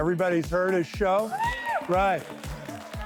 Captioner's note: applause